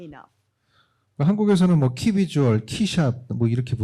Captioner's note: speaking korean